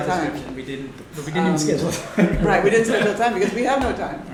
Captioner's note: laughter